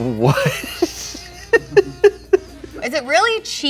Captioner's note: laughing